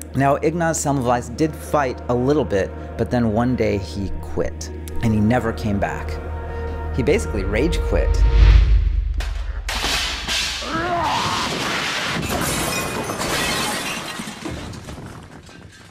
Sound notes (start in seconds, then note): 9.6 clattering; 9.7 shattering; 10.6 groaning